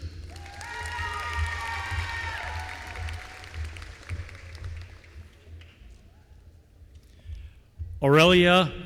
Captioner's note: applause